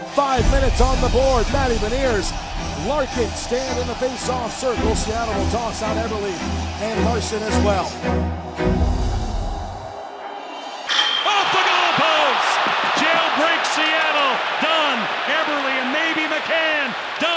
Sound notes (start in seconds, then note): 8.7 brooding music; 12.4 audience cheering